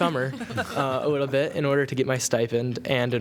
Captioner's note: laughter